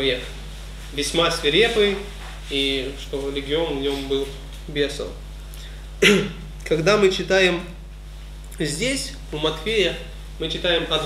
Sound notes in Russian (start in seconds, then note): 6.0 прочищает горло